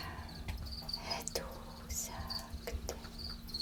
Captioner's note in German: Flüsternd